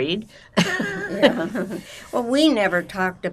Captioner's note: laughing